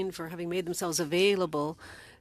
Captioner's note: speaking French